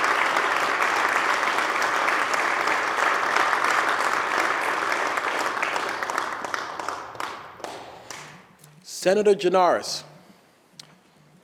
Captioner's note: applause